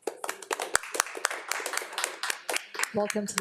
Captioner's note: audience applauding